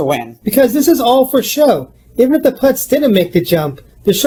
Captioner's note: none